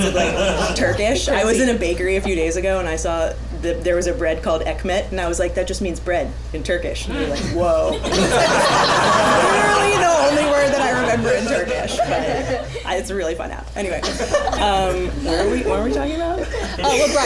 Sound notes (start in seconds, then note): 7.9 laughter